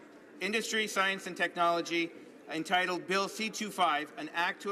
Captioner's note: none